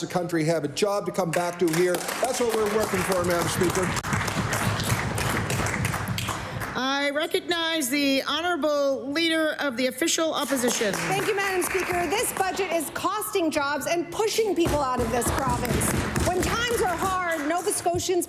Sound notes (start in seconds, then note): 7.6 applause